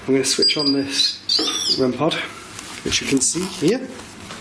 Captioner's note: beeping